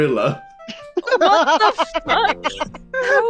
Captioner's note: laughter